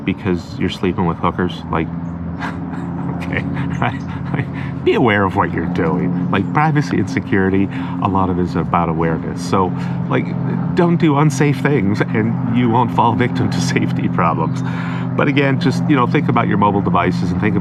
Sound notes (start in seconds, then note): 2.4 laughs